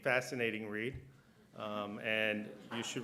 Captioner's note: laughter